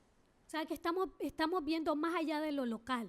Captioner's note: speaking spanish